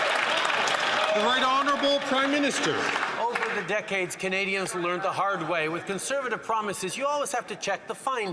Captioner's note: some Applause